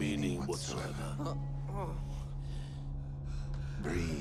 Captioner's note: Palle groans